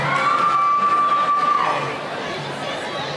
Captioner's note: cheering